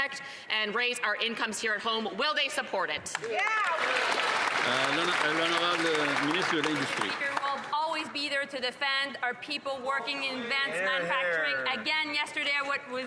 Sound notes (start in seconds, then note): 8.5 cheering and Applause